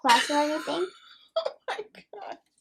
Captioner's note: nana chuckling